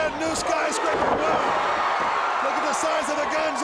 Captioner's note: crowd cheering